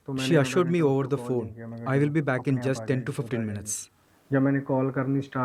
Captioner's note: speaking alternate language